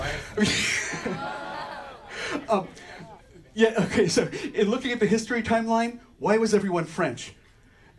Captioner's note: laughs